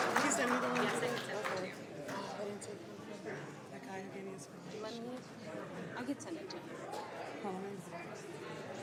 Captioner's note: applause